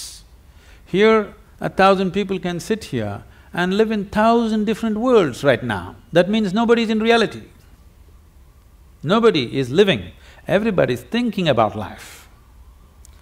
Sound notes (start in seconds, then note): none